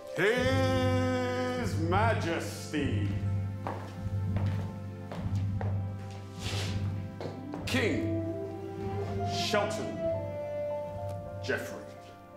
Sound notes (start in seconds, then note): 2.7 footsteps plodding